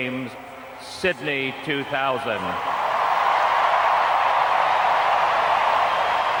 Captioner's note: audience cheers